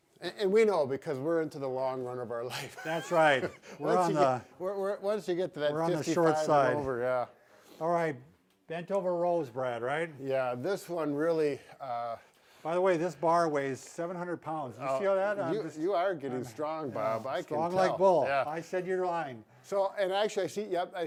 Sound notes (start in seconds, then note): 2.6 laughs